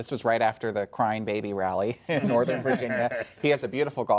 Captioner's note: laughter